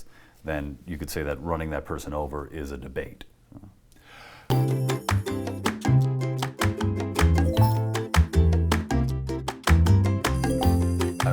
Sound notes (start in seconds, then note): 4.0 inhales